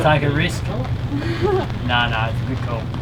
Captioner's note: chuckles